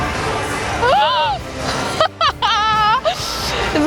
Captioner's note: girl gasps, laughs